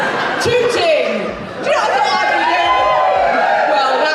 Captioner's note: audience Cheers